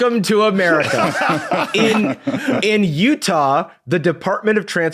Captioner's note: guessers laughing